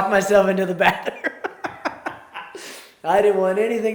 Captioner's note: both laugh